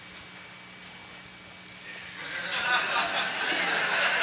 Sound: laughing

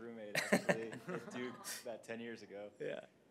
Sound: laughter

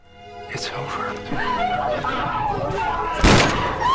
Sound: women gasp; Nadia whimpers; gun fires

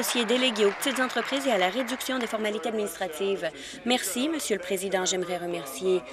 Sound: applause

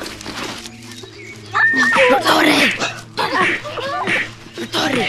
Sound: scuffles

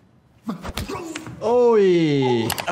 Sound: fist thuds; man cries out

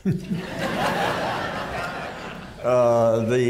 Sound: laughter

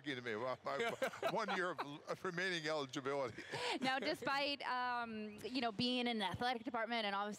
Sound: laughter

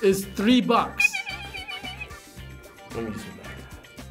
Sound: squeaks

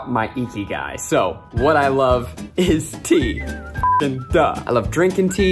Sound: beeps

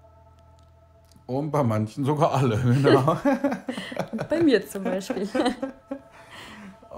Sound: both laugh

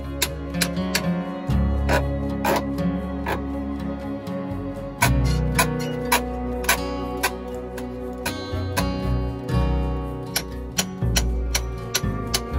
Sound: sound of a hammer hitting nails

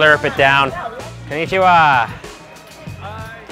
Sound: speaks in foreign language

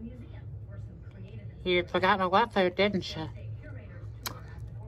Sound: normal voice

